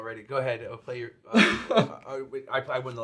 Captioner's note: chuckles